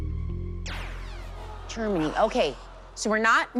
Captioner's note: zap